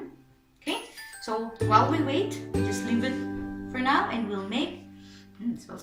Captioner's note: inhales